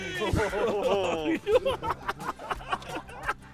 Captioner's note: laughing